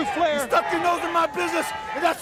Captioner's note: crowd chatter